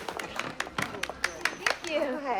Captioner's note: clapping